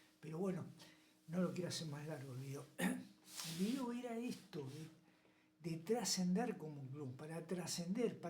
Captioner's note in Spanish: carraspeo